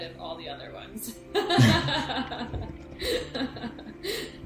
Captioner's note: all laughing